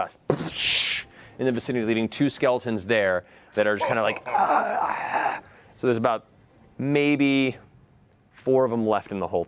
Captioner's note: breathy groan